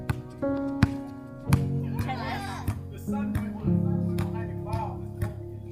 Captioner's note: family chattering